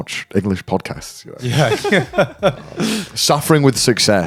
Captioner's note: laughing